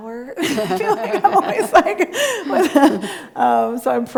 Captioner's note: both laughing